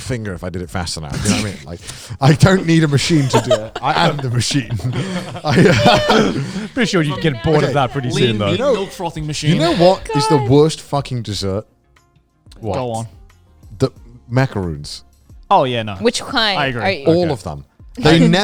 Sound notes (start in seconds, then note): 5.1 all laughing